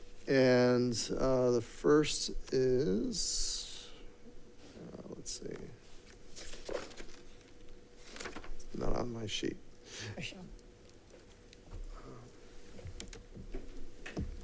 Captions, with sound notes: And the first is, let's see. (paper rustling) It's not on my sheet.